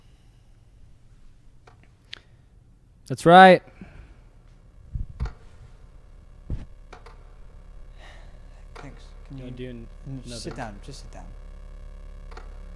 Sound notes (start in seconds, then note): 5.3 clock ticks rhythmically; 7.8 sighs